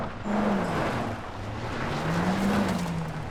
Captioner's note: gravel crunching; car engine revving